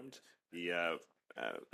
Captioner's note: speaking French